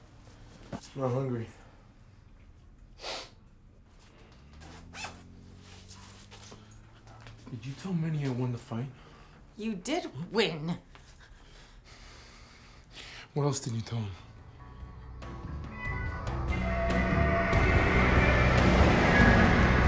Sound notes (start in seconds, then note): 3.0 sniffs; 16.6 moody, mid-tempo music plays